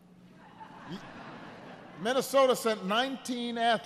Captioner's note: laughter